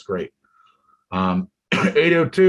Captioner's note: coughs